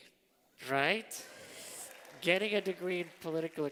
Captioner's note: applause